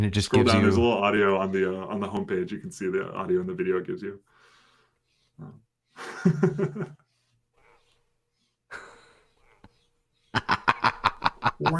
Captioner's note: laughter